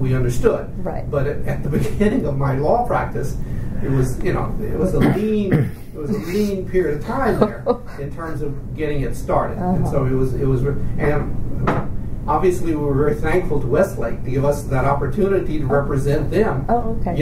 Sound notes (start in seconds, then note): 4.8 coughs; 7.0 laughs